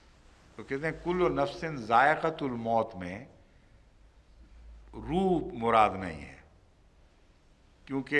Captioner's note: Arabic